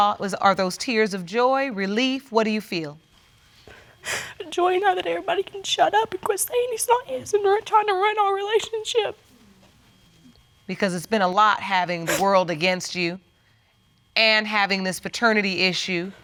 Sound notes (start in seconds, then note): 3.7 crying